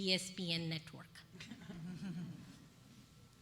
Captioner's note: laughter